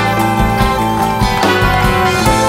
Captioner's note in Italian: Applauso